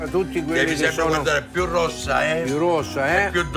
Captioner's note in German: Gespräch auf Italienisch